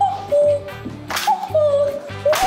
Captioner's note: slaps